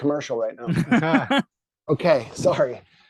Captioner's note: laughing